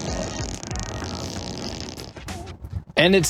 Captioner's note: engine revving